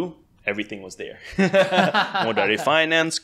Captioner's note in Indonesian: tertawa